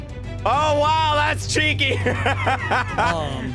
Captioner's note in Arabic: يضحك